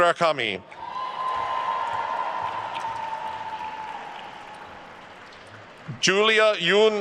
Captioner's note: attendees cheering and applauding